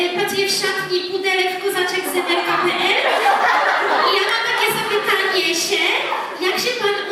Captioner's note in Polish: Aplauz